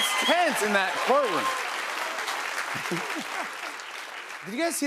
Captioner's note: cheers and applause